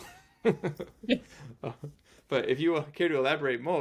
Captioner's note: laughs